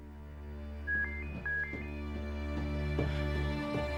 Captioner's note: handy ringing